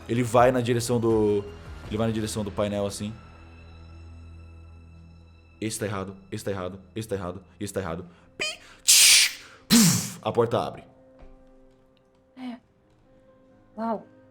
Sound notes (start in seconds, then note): 8.8 bfft